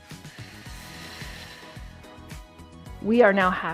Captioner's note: exhales